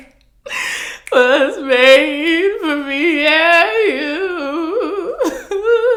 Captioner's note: sobbing